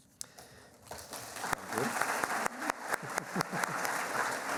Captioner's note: applauding